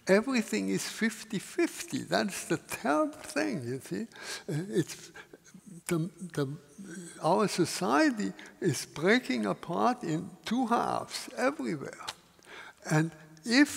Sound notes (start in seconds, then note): none